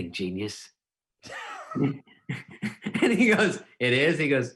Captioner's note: laughing